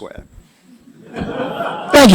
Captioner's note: laughter